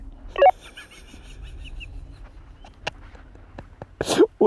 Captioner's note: laughing